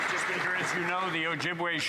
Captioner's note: some Applause